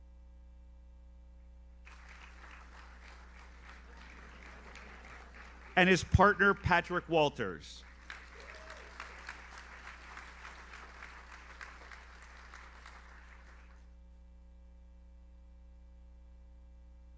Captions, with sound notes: (audience applauds) And his partner, Patrick Walters. (audience cheers) (audience applauds)